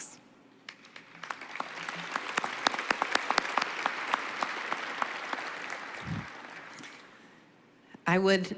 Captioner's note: applause